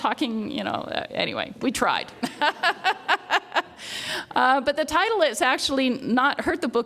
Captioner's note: laughs